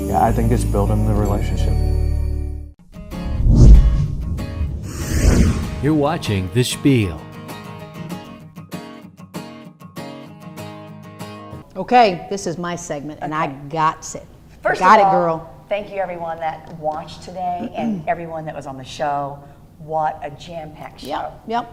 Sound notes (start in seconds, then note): 0.2 voiceover; 6.2 voiceover